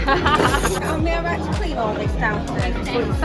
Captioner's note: very strong British accent